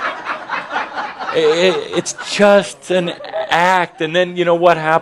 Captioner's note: laughter